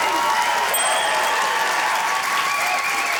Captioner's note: ding!; cheering, applause